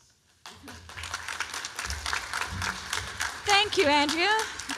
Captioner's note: applause